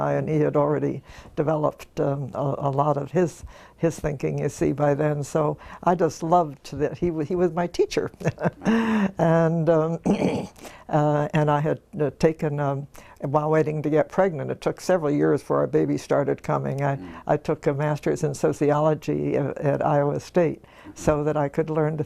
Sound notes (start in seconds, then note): 8.3 laugh; 9.7 cough